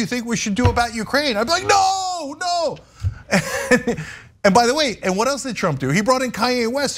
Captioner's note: laugh